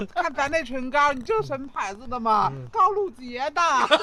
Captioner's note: mimicking Wu Dang